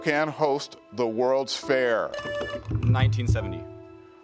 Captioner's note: buzzer beeps